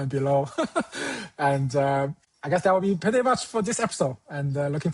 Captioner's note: chuckles